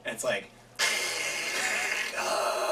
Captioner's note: gagging noise